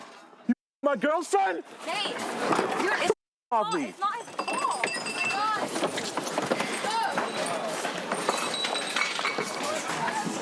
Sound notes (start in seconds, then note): 6.6 glass breaking